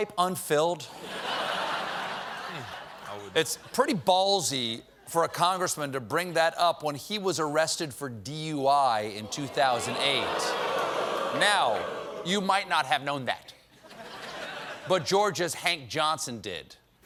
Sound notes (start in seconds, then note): 0.9 laughter; 9.1 audience reacts